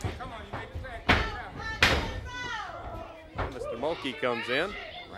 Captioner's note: crowd chatter